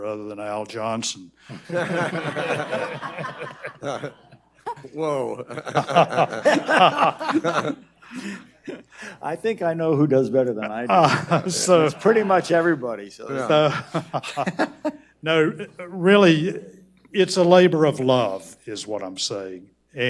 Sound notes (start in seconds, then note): 1.5 audience laughs; 13.3 panel laughs